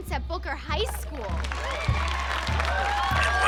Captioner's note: suspenseful music; audience applauding